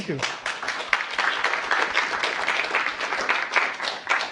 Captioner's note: applause